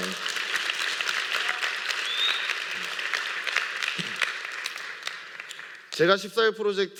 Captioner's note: applause